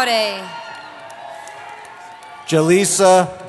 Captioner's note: cheering